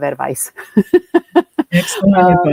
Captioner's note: laughs